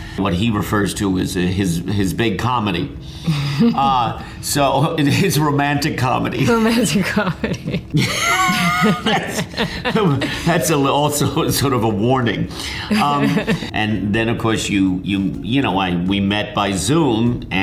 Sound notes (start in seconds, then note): 3.3 Amy chuckling; 6.5 laughing; 6.6 chuckles; 8.7 laughing; 12.9 laughs